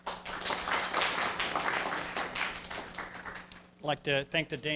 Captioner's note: everyone clapping